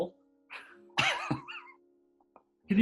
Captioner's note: chuckling